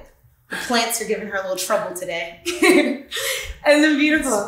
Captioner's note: laughs